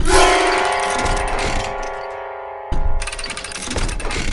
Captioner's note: crowd cheers